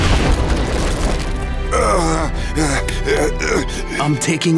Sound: groaning

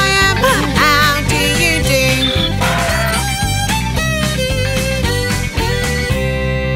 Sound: donkey braying; bright upbeat music fades

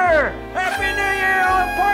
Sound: blowing horn

